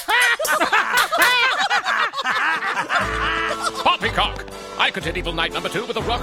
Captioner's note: laughing